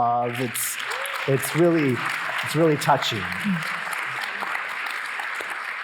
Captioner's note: audience applauding